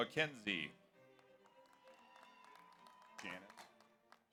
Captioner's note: audience applauds